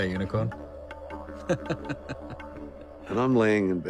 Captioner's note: laughs